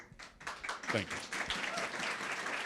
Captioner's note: audience applauding